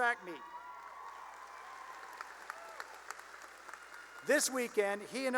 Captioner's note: cheering and applause